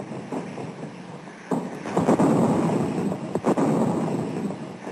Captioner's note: heavy artillery booming